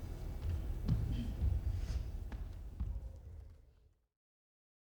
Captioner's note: gentle footsteps walking